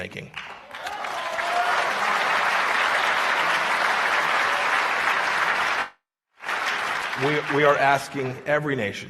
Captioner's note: applause